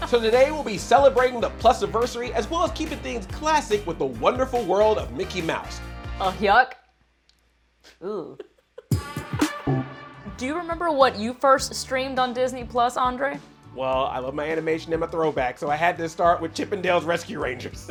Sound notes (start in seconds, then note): 6.1 poorly imitates goofy laugh; 7.9 laughing